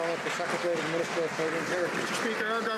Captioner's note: some Applause